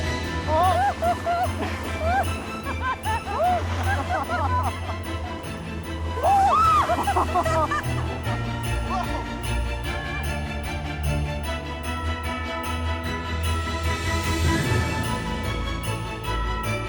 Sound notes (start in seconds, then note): 0.3 both laughing; 6.1 both shouting